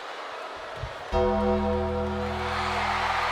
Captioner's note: crowd booing; gong chimes; crowd cheering